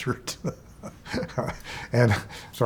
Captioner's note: chuckling